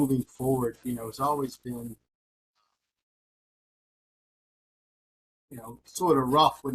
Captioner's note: audio cuts